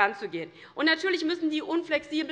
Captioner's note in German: none